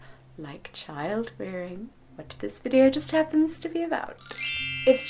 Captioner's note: sparkling sound effect